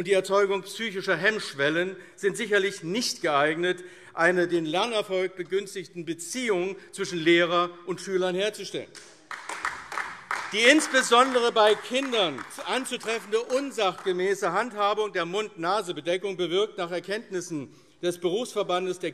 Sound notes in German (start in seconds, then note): 8.9 Beifall AfD